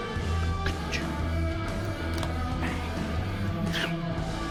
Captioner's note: John mimics drumbeats